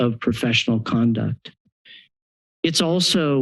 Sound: pause

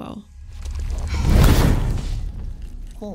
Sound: loud pop

